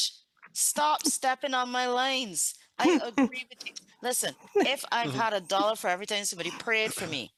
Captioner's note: laughter